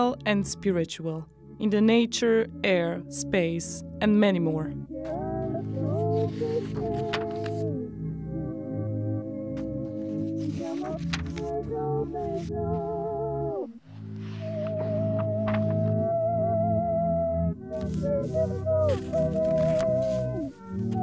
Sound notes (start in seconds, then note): 5.6 paper riffling; 9.6 paper riffling; 14.9 paper riffling